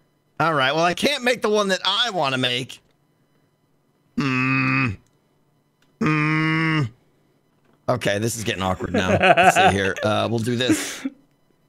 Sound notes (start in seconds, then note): 4.4 angry noises